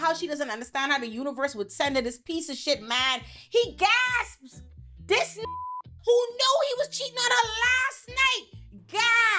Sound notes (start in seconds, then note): 5.4 beep